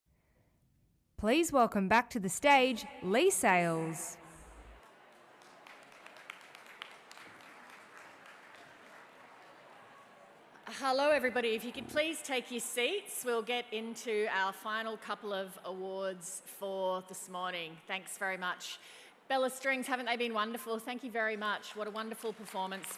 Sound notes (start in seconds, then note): 11.3 applause